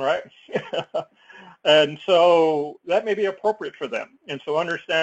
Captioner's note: laugh